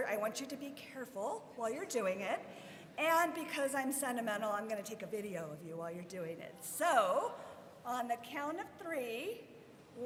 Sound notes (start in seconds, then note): none